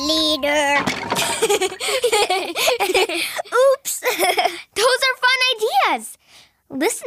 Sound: laughs

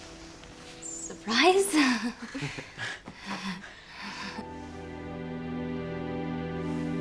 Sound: group laughs nervously

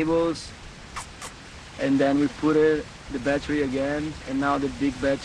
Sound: kissing

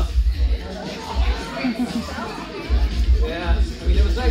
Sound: laughter

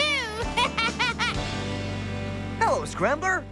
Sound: giggles

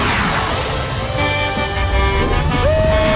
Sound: horn honking

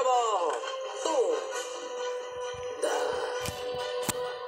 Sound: grunting

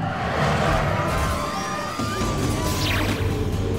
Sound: people screaming

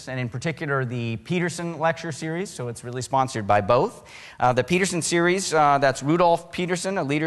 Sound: none

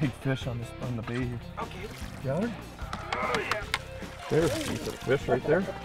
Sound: grunting

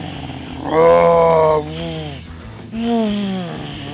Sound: growling

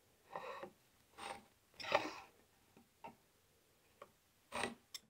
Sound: hand tool scrapes

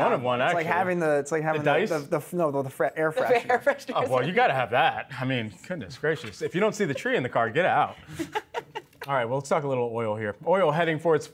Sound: laughter

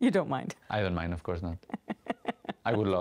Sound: laughing

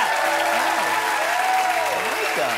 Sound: applause

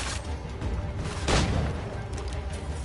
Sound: gunshot

